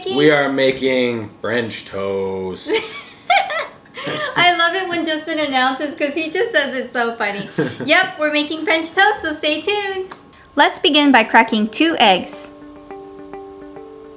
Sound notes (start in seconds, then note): 3.9 laughs